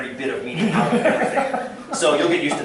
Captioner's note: laughter